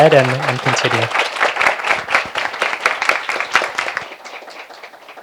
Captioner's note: applause